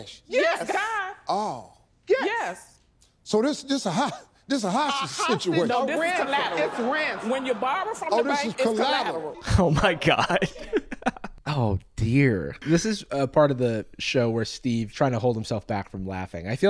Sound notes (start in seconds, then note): 9.4 laughs